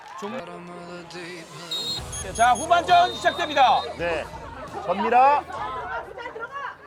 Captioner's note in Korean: 호루라기 소리